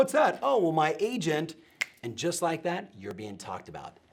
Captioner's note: fingers snapping